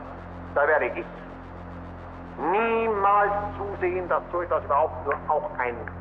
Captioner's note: Himmler continues speaking German